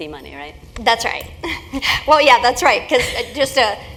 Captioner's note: laugh